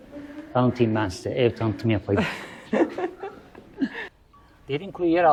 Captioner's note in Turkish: kahkaha